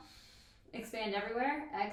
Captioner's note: inhales deeply